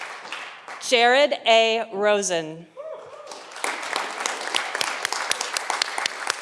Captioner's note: audience applauding